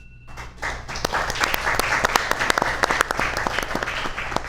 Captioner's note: audience applauds